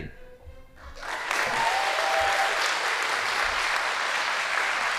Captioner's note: audience applauding